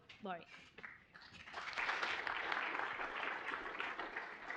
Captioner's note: applause